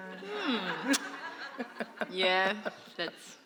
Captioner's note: laughter